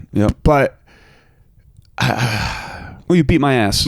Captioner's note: sighs